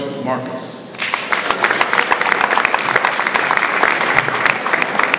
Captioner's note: audience applauds